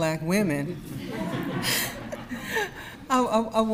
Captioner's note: audience laughs